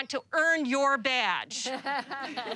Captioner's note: laughter